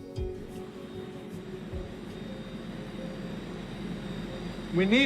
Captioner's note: telescope whirring